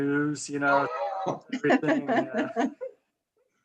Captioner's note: laughs